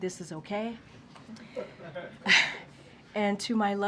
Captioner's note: laughter